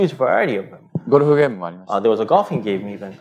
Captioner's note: speaking japanese